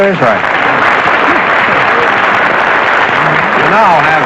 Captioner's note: applause